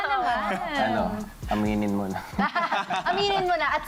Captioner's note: laughter